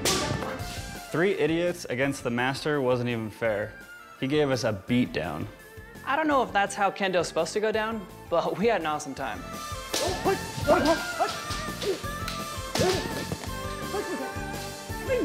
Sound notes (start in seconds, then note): 9.9 fighters exclaiming